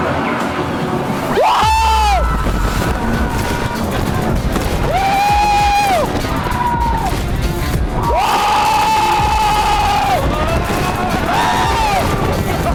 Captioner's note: screaming. like a lot. and it's mostly